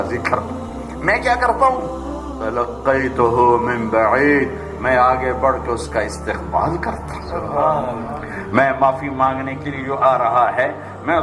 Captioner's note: Arabic